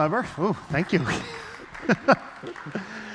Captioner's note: applause; laughs